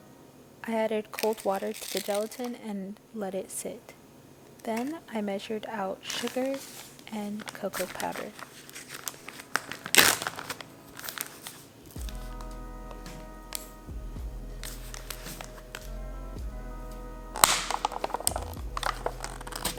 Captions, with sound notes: I added cold water to the gelatin and let it sit. Then, I measured out sugar and cocoa powder. [sound of ziploc bag containing sugar opening] [sound of cocoa powder container opening]